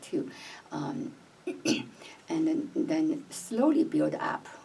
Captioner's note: cough